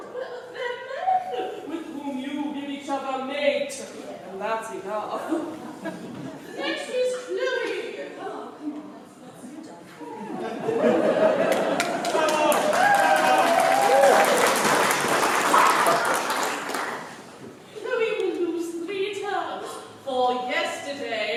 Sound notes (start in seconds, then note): 15.5 laughter